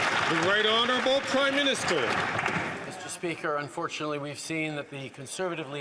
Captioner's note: some Applause